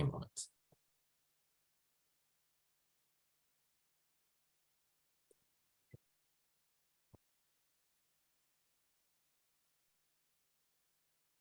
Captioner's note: silence